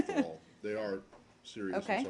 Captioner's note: laughter